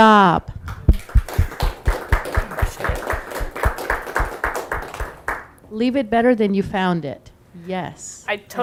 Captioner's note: audience clapping